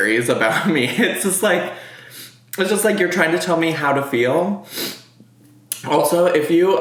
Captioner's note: sniffs